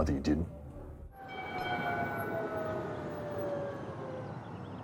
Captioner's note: tram bell dings